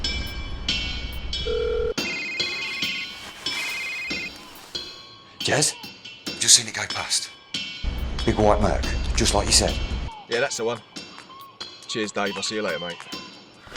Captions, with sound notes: (phone dialing) (phone ringing) - Jez, just seen it go past. Big white Merc, just like you said. - Yeah, that's the one. Cheers Dave, I'll see you later mate.